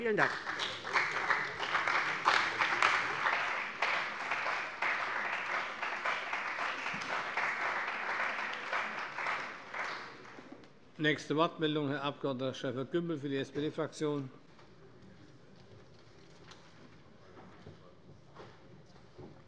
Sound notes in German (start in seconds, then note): 2.6 Beifall bei der CDU und dem BÜNDNIS 90/DIE GRÜNEN